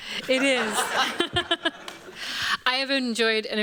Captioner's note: laughter